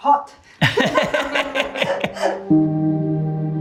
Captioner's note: both chuckling; tranquil music